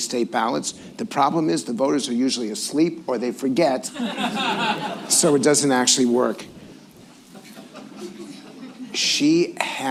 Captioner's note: laughter